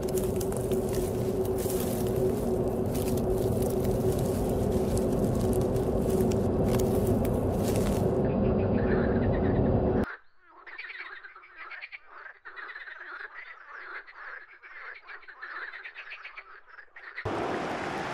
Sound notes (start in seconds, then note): 0.0 haunting sounds; 9.8 nature sounds; 17.2 football game playing